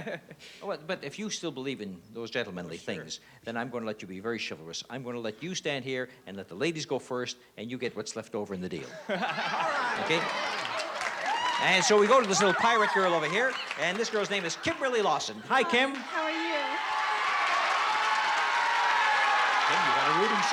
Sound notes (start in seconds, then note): 16.7 cheering